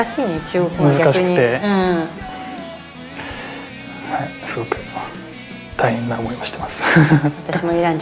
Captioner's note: laughs